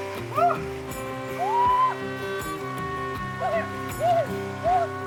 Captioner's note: woman shrieks